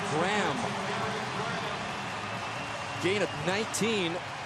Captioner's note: pa announcement